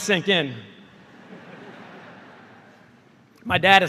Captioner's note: laughter